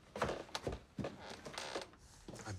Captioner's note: ladder creaks